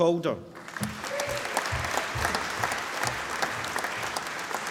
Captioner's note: applause